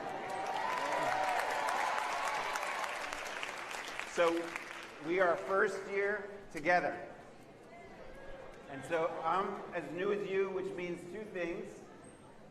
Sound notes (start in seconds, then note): 1.6 cheers and applause